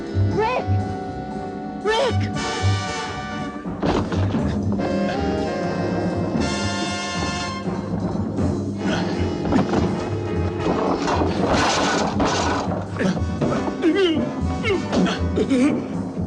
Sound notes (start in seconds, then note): 4.0 suspenseful music; 7.2 crashing; 13.9 groaning